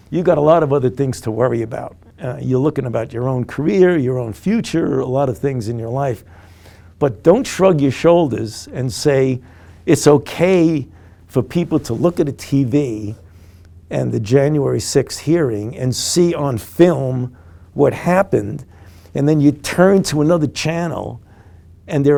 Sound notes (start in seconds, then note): none